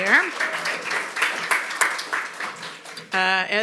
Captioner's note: applause